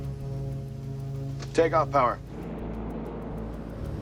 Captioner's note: engines revving